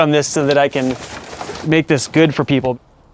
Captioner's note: none